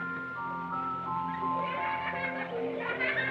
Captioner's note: giggling